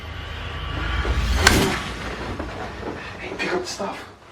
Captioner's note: gun firing